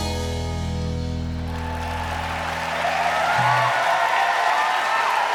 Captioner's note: crowd clapping and cheering